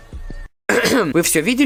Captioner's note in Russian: Кхм-кхм